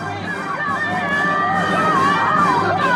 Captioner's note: crowd shouting in protest